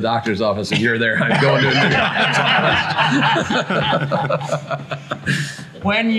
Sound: everyone laughs

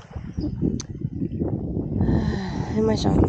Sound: wind

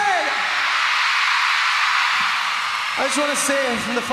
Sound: crowd cheers

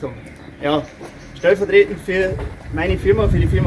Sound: none

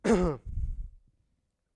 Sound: cough

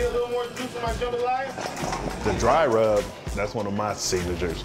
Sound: chef shouting and kitchen noise

